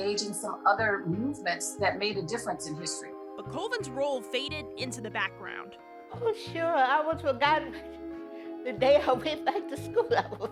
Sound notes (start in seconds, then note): 3.6 voiceover